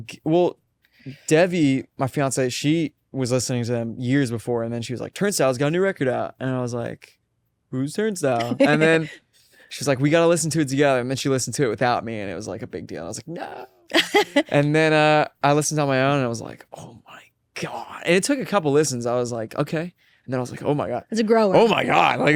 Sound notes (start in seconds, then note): 8.4 laughs; 13.8 laughs